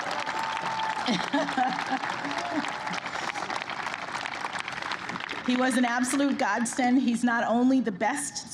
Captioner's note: applause